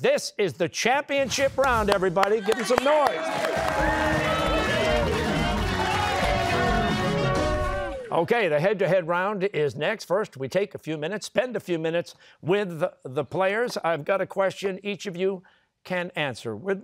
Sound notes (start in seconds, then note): 3.6 cheers and applause